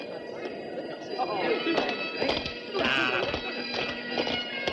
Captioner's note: indistinct chatter